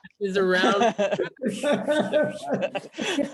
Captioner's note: laughing